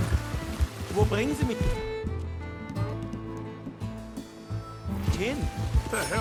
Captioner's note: in German